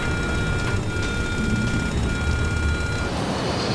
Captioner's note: alarm blaring